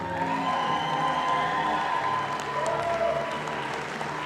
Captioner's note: audience applauding